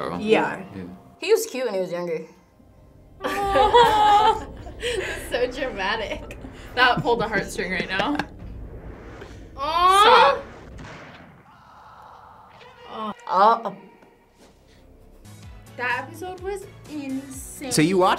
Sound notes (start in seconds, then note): 3.2 both laugh; 10.4 gunfire echoes